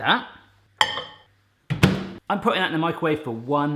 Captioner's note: microwave door closing